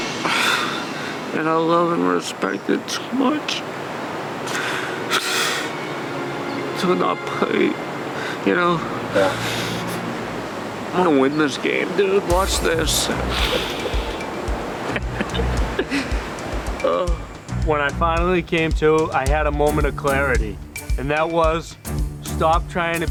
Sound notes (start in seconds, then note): 14.8 laughing